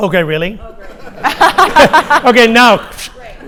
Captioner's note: host laughs